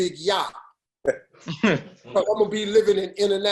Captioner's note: laughter